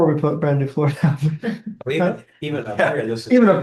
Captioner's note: laughter